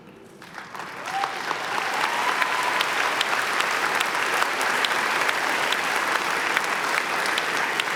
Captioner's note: applause